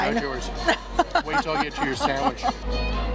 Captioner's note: laughs